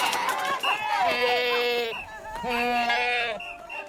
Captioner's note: goats bleating